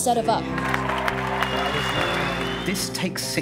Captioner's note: applause